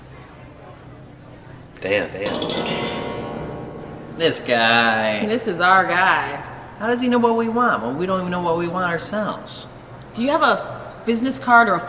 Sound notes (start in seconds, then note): 2.1 eerie clattering